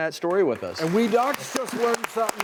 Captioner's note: audience clapping